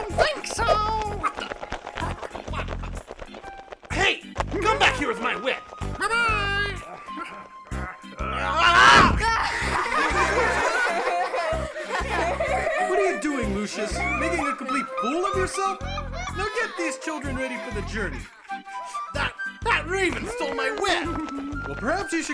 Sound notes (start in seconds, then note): 8.2 צעקות; 9.6 צחוק